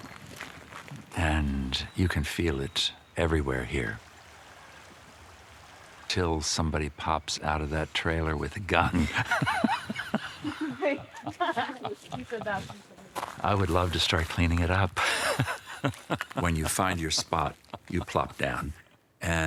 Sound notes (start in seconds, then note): 8.8 laughing; 15.0 laughs